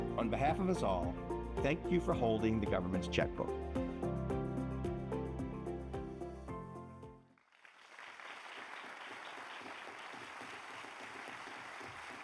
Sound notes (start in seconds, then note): 4.1 bright music continues; 7.4 audience applauds